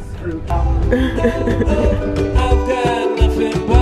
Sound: chuckles

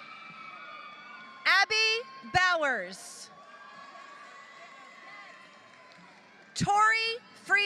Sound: applause

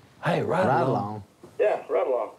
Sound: on phone

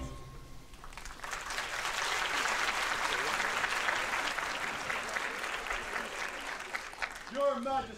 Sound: applause

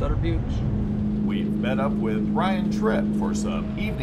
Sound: boat engine running

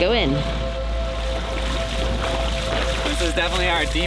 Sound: water splashing

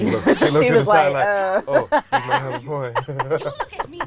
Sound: laughing; laughs

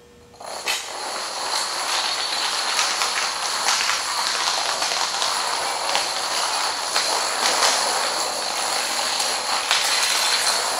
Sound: sound of dominoes falling

